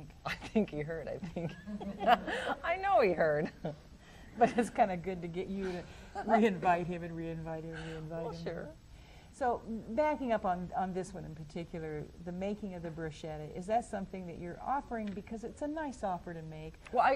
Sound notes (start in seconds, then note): 1.4 laughs; 6.8 laughs